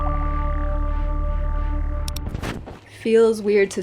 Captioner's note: bloop